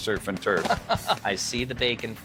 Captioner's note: laughing